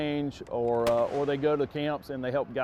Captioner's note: gun clicks